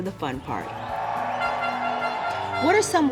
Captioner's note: crowd cheering; trumpet blaring